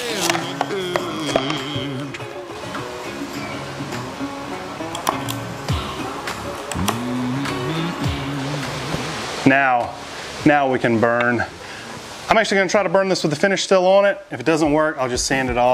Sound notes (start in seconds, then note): 4.6 lively rock music; 4.6 torch hissing